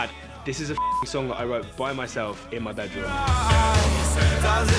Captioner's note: beep